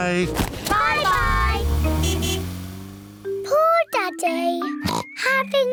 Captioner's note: toots horn; oinks